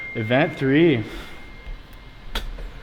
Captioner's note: cell phone notification pings